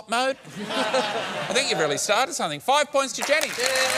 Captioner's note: laughter; cheering and applause